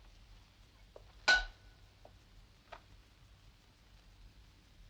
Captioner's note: metal dings